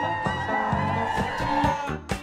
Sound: cheering

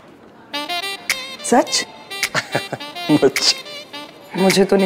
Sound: Harry laughs

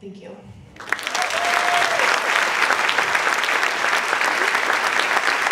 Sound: audience clapping and cheering

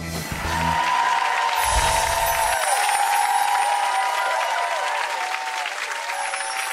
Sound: crowd cheering; crowd applauding

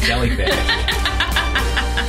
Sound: laughs

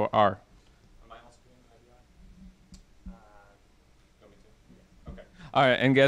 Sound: speaking off microphone

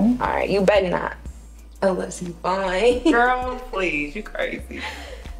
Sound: laughs

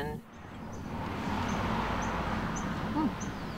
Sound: car passes

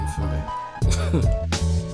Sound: laughter

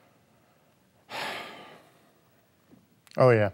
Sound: sighing

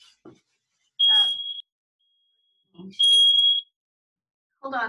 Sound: beeping

